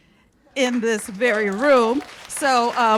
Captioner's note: cheers and applause